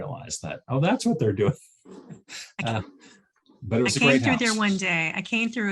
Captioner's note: chuckles